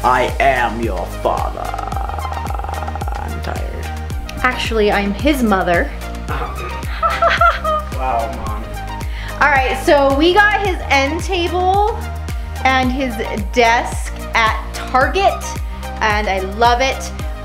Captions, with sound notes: - I am your father. I'm tired. - Actually, I'm his mother. (laughing) - Wow mom. - All right so we got his end table and his desk at Target and I love it.